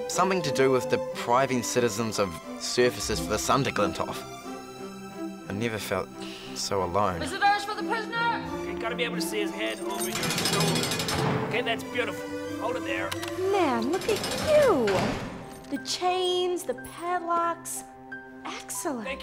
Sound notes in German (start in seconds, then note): 10.1 Zellentür klirrt auf; 13.2 Kamera klickt